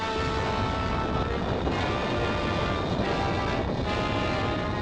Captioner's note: volcano booming